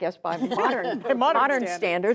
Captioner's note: laughter